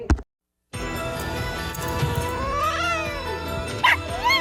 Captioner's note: hisses and then yowls; barks then howls